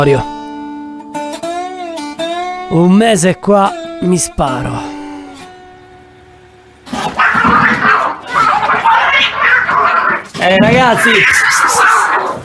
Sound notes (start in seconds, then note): 0.0 rock music; 4.9 rock music; 6.8 cats fighting